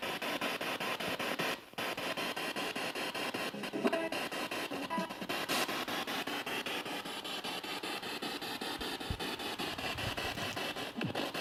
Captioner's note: noise of the spiritbox in the background